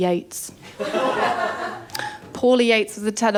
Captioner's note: laughter